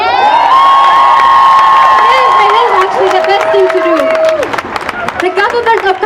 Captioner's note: cheering and applause